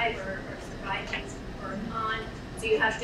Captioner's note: speaking away from mic